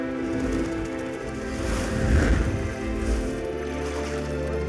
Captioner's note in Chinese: 快速移动声; 水花声